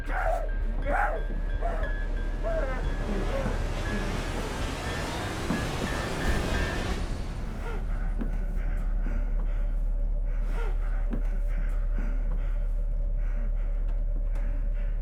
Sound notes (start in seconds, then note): 0.0 Skull-Faced Assailant gasping hysterically; 7.5 assailant gasping